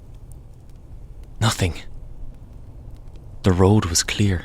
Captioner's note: tone of Slight Surprise